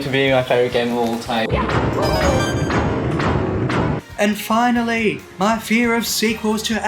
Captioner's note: Piano chomps loudly at Mario